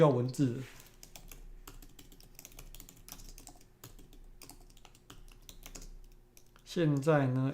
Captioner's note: typing